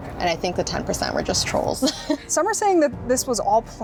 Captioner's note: giggles